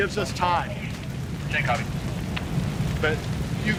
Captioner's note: radio chattering